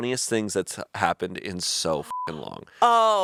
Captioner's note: beep